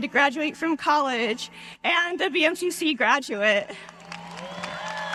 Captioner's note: cheers